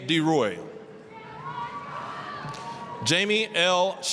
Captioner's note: applause, cheering